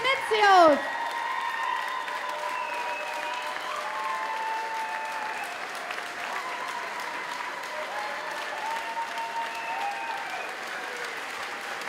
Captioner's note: applause